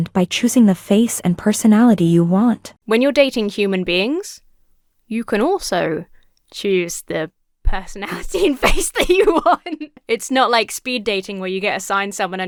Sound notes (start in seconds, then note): 8.3 laughs